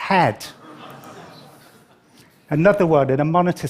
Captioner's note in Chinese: 笑聲